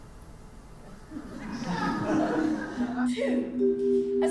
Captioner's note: audience laughs